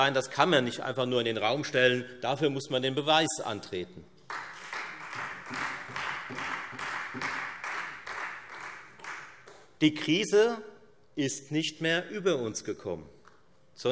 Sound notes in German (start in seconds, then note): 4.2 Beifall Freie Demokraten und vereinzelt AfD